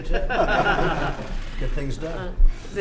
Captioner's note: laughter